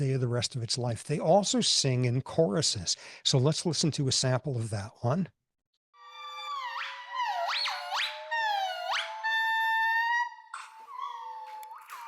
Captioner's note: gibbon chorus plays